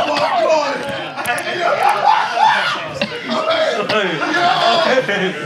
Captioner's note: Sidemen laughing